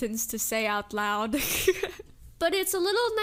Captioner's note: laughs